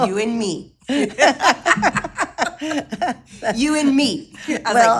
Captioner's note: both laughing